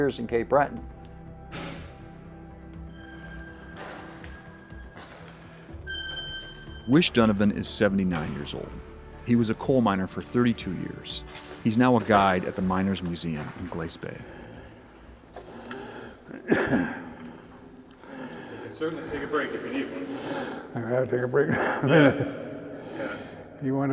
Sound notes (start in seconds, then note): 14.2 heavy breathing, coughing